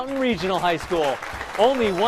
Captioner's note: applause